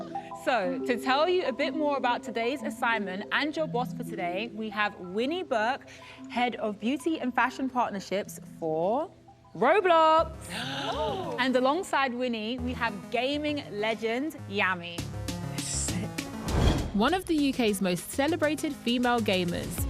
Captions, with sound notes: So, to tell you a bit more about today's assignment, and your boss for today, we have Winnie Burke, head of beauty and fashion partnerships for Roblox. (gasping) And alongside Winnie, we have gaming legend, Yammy. Sick. One of the UK's most celebrated female gamers,